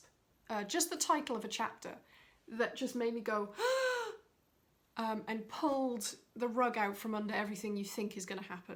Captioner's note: gasp!